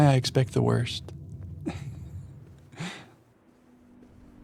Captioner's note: chuckles